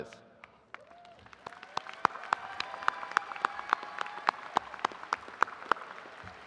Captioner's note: attendees cheering and applauding